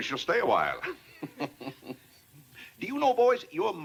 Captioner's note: chuckles